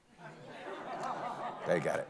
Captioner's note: audience laughing